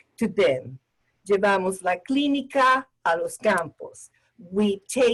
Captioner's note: speaking spanish